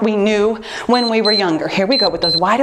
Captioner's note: timer beeps